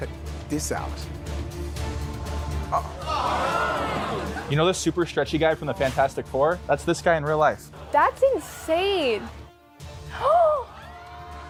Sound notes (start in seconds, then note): 1.6 dramatic music; 2.8 crowd gasps; 10.3 gasps